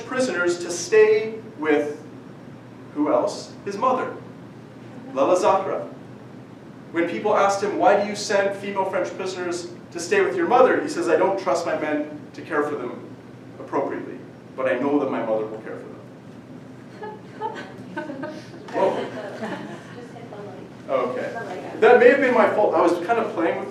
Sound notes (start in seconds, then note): 16.9 audience laughing